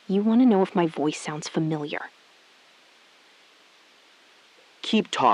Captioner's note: SILENCE — 4 sec